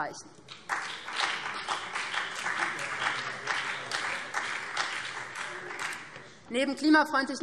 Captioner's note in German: Beifall BÜNDNIS 90/DIE GRÜNEN